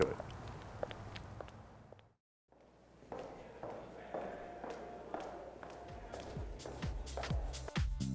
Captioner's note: footsteps